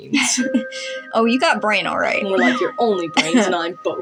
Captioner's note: chuckle; whistle